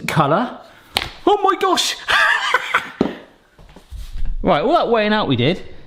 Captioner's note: laughs